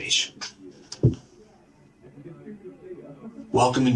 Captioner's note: background office noise